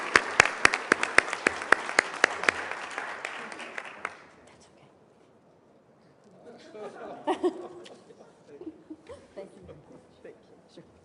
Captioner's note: applause; laughter